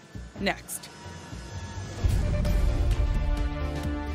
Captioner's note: logo whooshes